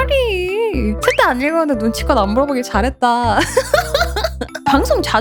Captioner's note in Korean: 웃음